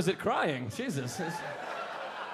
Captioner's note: audience laughing